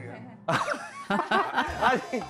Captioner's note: bursting into laughter